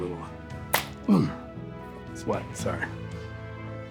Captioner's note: hands slap